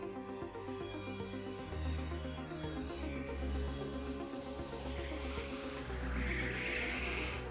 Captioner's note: chimes; whoosh